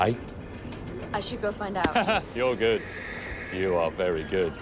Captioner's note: laughs